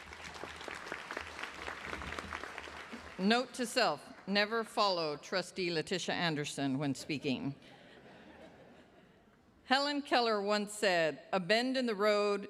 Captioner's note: applause